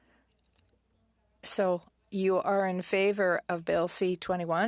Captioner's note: speaking French